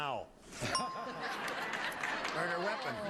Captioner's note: audience applauding